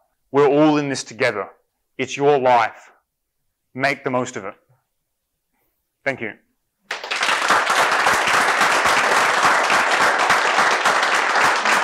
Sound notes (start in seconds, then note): 6.8 audience clapping